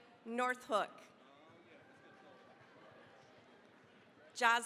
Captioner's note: applause